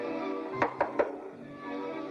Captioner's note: playful music; knocks on door; playful music